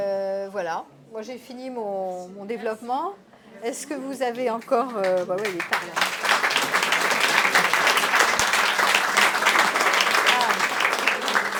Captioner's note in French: applaudissements